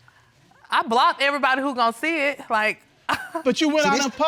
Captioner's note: laughs